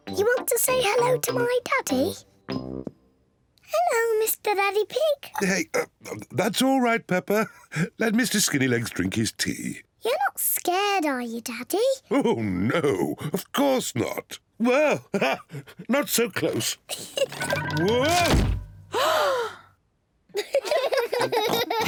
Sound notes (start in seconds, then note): 15.1 laughs; 18.9 gasps; 20.4 all laugh